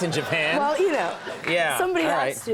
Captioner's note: audience laughs